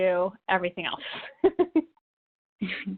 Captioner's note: chuckles